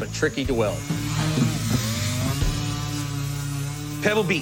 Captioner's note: whirring